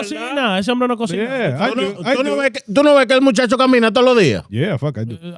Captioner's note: speaking In Foreign Language